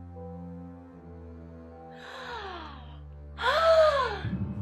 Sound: dramatic music; Fiona sighing

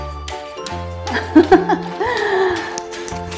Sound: laughs

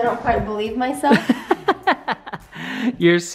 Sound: laugh

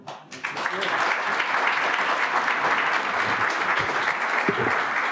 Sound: applause

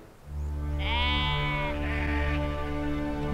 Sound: sheep baa

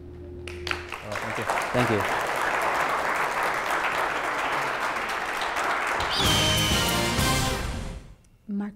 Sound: applause

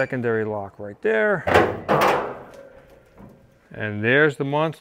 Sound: car hood creaks open

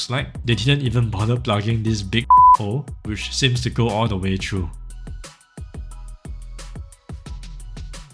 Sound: beep

